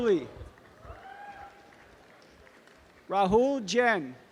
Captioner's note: audience applause